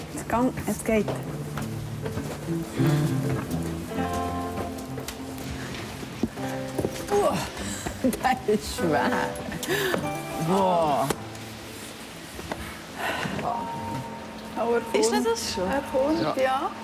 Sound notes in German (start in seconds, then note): 8.4 Lachend